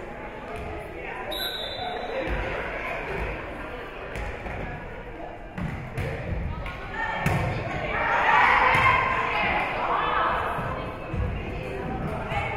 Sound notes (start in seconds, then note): 1.3 whistle being blown; 7.8 spectators shouting encouragements